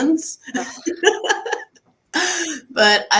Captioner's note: laughs